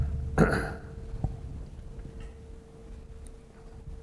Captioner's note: Hisham clears throat